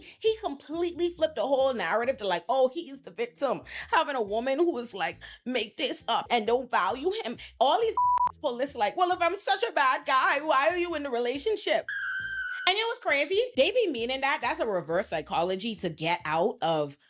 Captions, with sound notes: He completely flipped the whole narrative to like, oh, he is the victim. Having a woman who was like, make this up and don't value him. All these (beep) police are like, well, if I'm such a bad guy, why are you in the relationship? (beep) And it was crazy. They be meaning that. That's a reverse psychology to get out of,